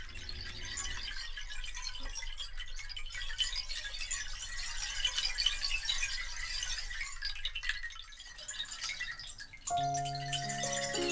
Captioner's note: gentle Rain